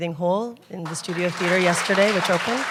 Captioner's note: applause